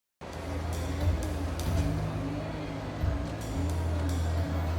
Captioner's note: crowd murmuring